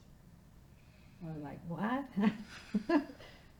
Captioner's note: laughing